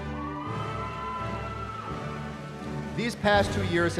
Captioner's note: cheering